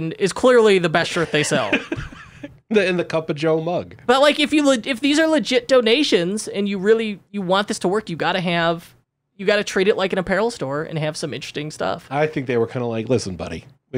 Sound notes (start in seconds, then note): 1.1 laughing